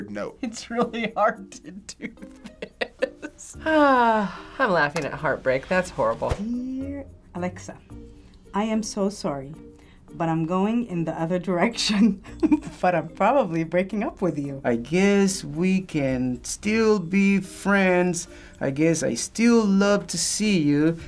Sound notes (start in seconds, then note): 1.9 laughing; 3.6 sighing